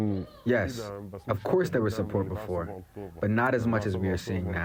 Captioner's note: through translator